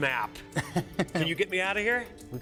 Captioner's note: laughs